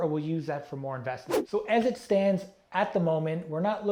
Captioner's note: air whooshing